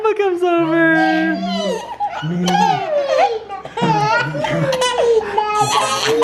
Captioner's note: laughing and squealing